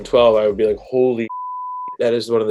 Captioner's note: beep